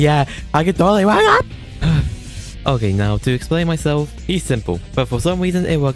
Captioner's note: angry bun sound